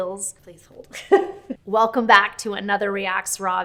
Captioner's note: chuckles